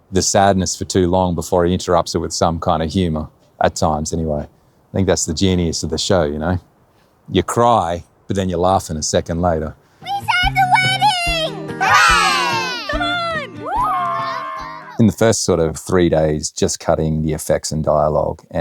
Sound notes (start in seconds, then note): 13.9 group exclaims